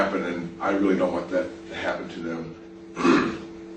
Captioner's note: coughing